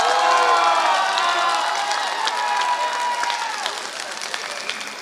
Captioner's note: applause